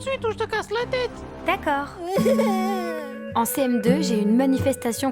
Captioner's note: crying